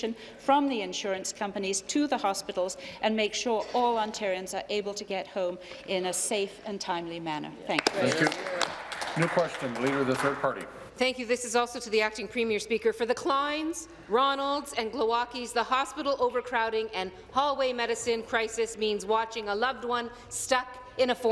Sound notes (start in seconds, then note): 11.6 applause